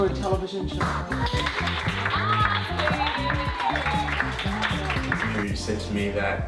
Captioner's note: applause, cheers